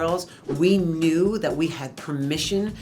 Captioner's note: air whooshing